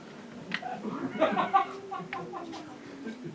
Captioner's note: laughter